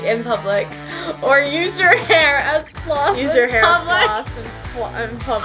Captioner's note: laughs